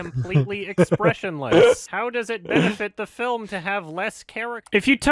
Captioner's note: chuckles